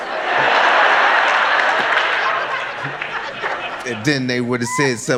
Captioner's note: audience laughing